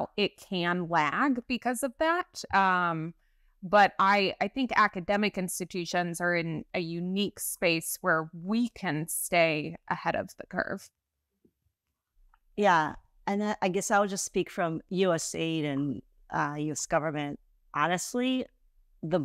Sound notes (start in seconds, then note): none